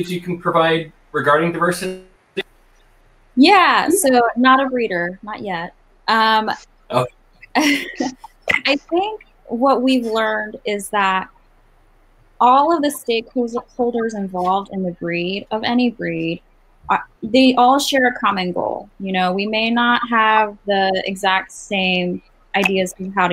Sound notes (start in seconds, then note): 7.5 laugh